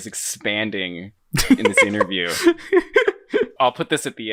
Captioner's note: laughing